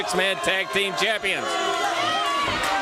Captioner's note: crowd chatter